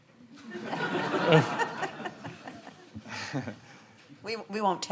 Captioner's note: audience laughing